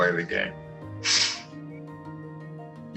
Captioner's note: sniffles